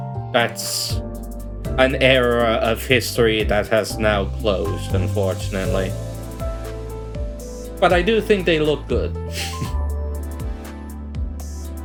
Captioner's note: muffled chuckle